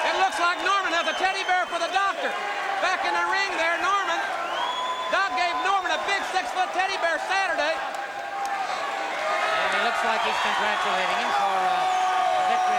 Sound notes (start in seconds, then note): 7.4 crowd cheering